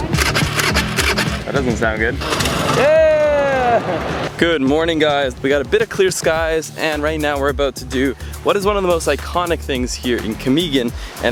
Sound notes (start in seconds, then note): 0.0 engine revving; 2.6 cheers